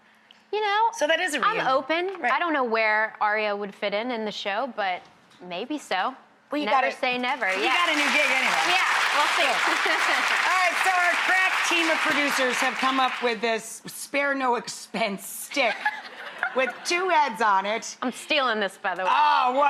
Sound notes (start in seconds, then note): 9.8 audience clapping; 16.1 Hale laughing